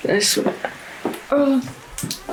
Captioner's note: replay of door closing incident; door closes